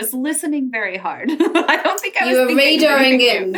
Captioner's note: laughs